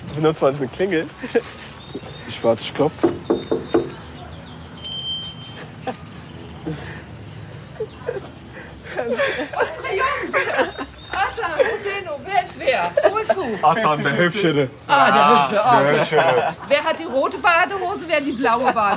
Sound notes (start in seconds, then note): 3.0 knock; 4.7 bell